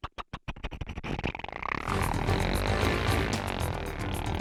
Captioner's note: sound of engine